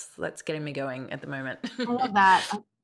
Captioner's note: chuckles